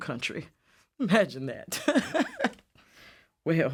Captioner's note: laughs